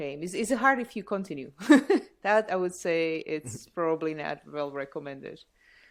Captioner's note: laughter